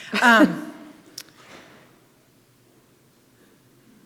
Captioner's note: host chuckling